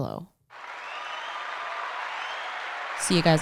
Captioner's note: crowd applause